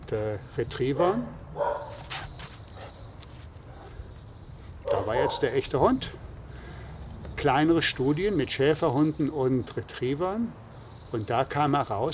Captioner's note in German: bellen, da war jetzt der echte Hund